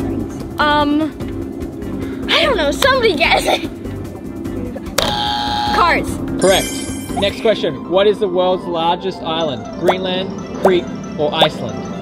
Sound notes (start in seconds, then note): 4.7 buzzes